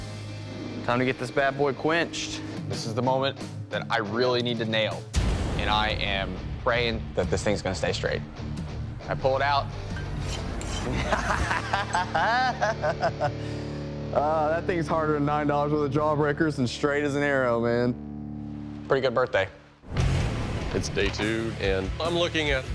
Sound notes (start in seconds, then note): 10.6 laughing